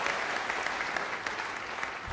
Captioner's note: congregation clapping